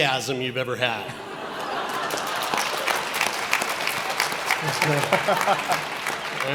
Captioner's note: audience laughs and applauds